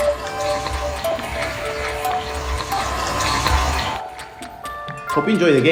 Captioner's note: water dispenses